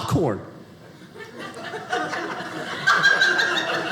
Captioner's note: audience laughing